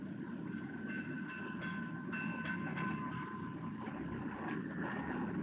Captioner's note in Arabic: رنين جرس العربة